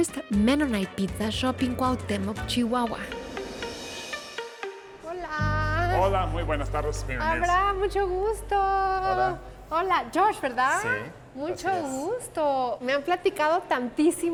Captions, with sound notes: Mennonite pizza shop in Cuauhtémoc, Chihuahua. [All speaking Spanish]